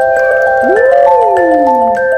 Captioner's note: cheering